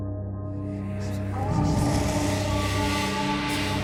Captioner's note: chanting